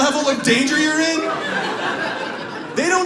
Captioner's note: audience laughs